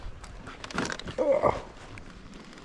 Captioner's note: grunts in old man